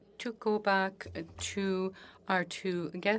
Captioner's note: speaking French